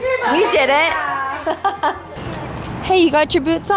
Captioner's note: laughs